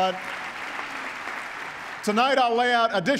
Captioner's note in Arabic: تصفيق